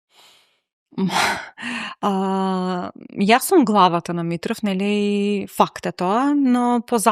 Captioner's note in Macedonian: тешко дишење